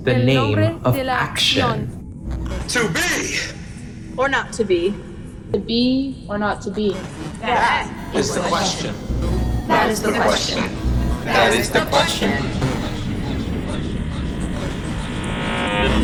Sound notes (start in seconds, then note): 12.7 buzzing